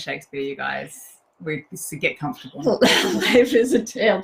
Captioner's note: both chuckle